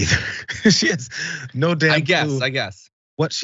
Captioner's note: laugh